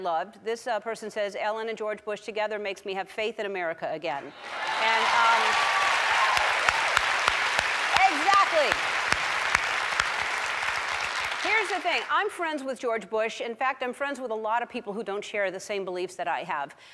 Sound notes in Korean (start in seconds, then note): 4.2 청중 환호